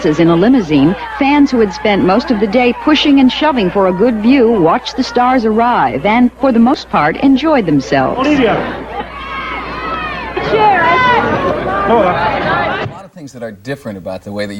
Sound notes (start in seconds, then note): 9.6 crowd cheering